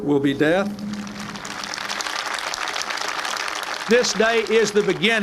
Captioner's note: crowd applauds